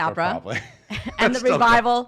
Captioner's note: laughing